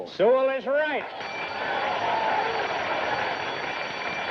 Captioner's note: bell ringing; applause